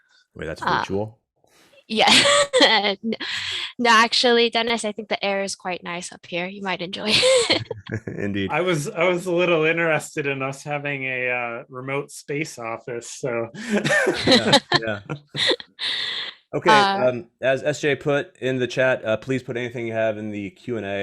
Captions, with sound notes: >> THAT IS COOL. >> YES. ACTUALLY, DENNIS I THINK THE AIR IS QUITE NICE UP HERE. YOU MIGHT ENJOY IT! >> INDEED. >> I WAS A LITTLE INTERESTED IN US HAVING REMOTE SPACE OFFICE! [ LAUGHTER ] >> OKAY. AS SJ PUT IN THE CHAT, PLEASE PUT ANYTHING THAT YOU